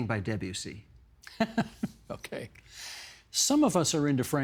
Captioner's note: chuckling